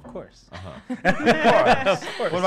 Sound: laughing

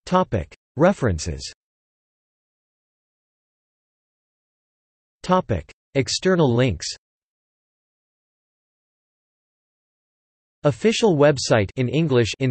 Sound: in Spanish

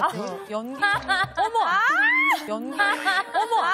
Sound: everyone laughs at the answer

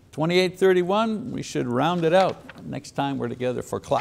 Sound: paper rustling

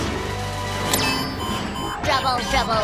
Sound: beeping

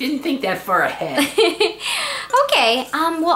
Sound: laughs

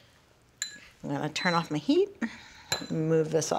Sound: stove beeps

